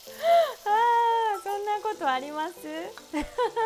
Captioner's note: laughter